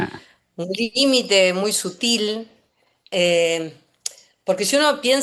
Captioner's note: snort